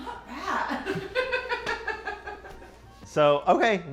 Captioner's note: woman laughs